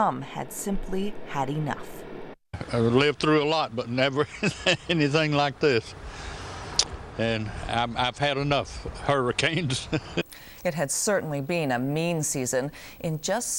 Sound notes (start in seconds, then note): 8.1 chuckles